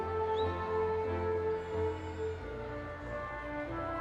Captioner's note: audience whistles